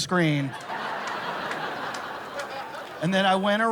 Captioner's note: laughter